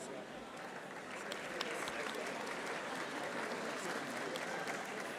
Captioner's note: audience applauding